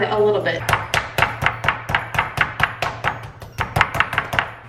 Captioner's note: hammer pounding